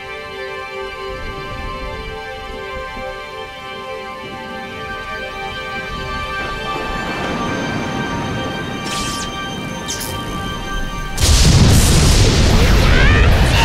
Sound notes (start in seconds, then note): 8.8 electricity buzzing; 11.4 lightning cracking loudly